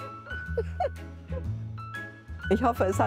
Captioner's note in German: laughter